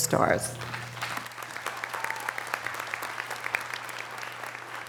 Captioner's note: audience applause